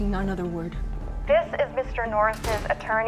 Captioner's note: on phone